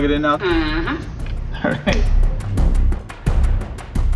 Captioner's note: laughing; dramatic music